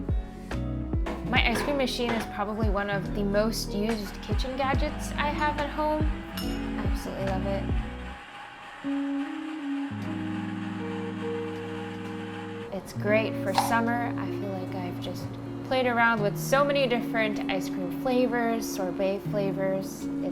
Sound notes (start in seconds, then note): 7.1 ice cream machine whirring